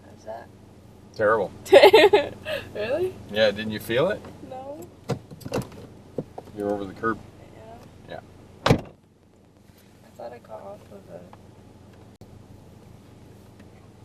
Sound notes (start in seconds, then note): 1.6 laughing; 8.6 car door slams